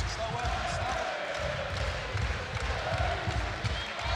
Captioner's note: crowd roars